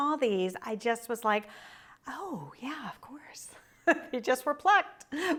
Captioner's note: chuckles